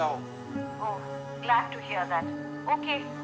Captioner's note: on phone